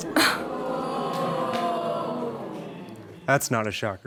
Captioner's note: audience jeering